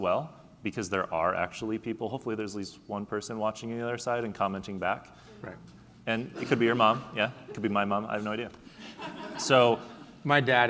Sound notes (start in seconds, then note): 8.8 laughing